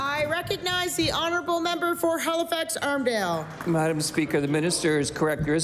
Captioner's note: applause